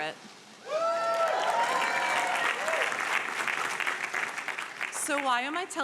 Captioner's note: audience applauding and cheering